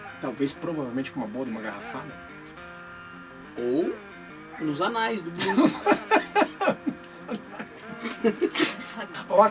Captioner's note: laughs